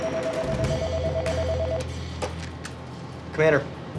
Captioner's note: phone ringing